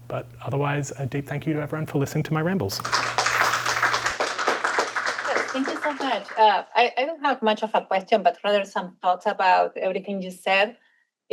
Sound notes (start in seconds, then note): 2.8 applause